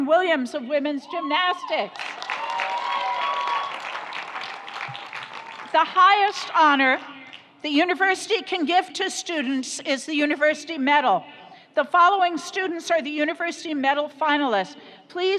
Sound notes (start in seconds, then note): 1.9 audience cheers; 1.9 audience applauds